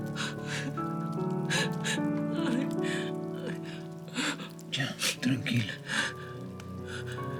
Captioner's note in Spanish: Sollozos